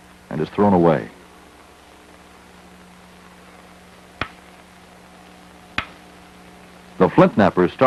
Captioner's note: sound of hammering rock